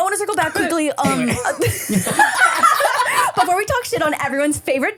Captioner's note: everyone laughs